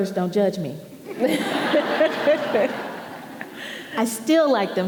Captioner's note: audience laughing